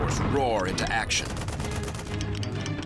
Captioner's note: gunfire